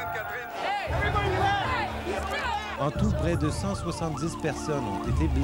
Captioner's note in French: cris des partisans